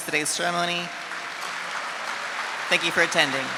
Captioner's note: audience applauding